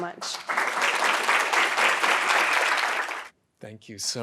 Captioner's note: applauds